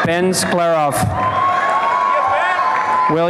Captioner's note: applause and cheering